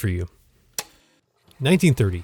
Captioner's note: projector whirring